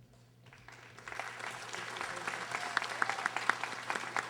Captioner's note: audience applauding